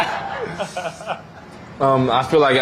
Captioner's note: laughing